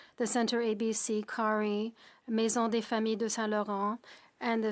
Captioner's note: speaking French